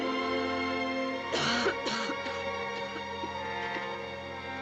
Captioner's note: coughing